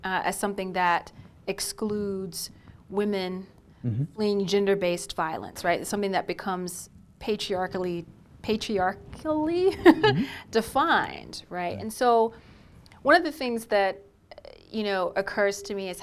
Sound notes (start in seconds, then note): 9.8 laughing